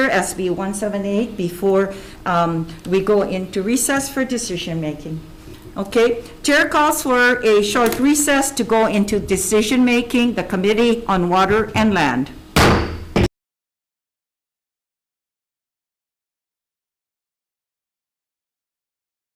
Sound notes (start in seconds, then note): 12.5 gavel bangs